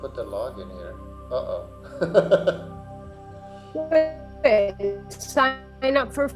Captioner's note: laughs